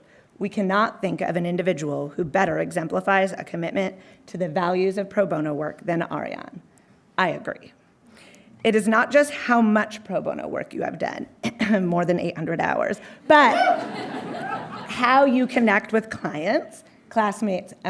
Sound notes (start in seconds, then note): 13.5 audience whooping